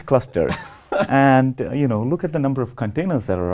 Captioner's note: laugh